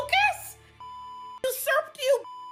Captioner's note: beep